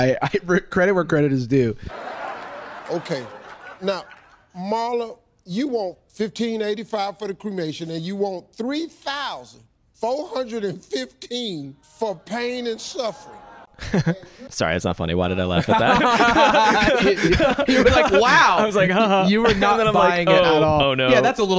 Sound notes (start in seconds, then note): 15.6 chuckles; 15.6 laughs